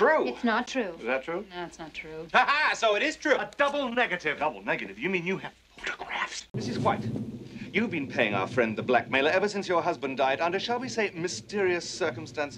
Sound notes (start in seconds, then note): 5.7 whispers